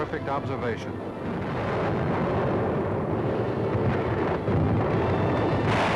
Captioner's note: dramatic music; booming